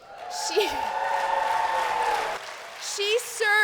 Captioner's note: cheers